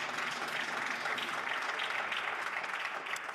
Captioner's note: applause